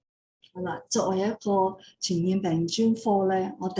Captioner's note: non-english speech